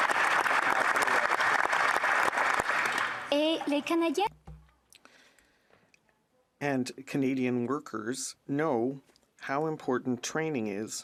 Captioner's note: applause